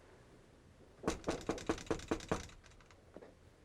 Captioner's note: knocks